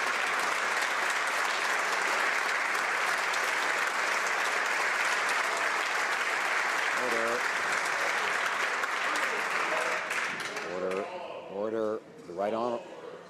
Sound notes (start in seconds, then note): 3.3 some Applause